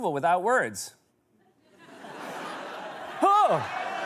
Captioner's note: laughter